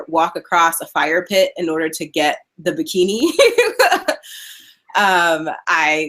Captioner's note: laughing